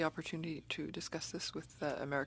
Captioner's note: speaking French